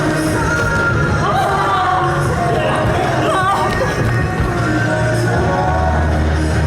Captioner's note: A lot of shouting because the choreography is so difficult